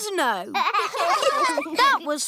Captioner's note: laughter